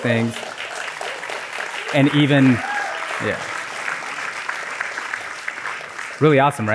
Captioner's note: applause